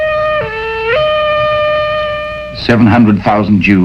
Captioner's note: none